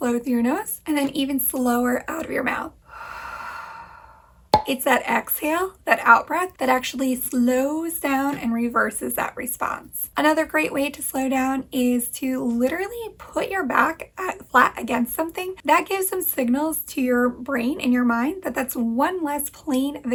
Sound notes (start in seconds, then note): 2.8 exhales